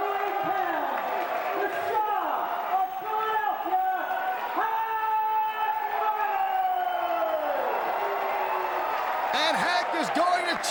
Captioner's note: crowd cheering